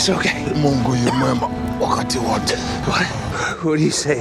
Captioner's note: speaks in foreign language